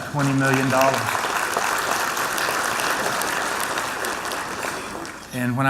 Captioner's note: applause